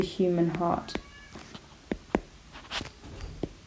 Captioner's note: cat meowing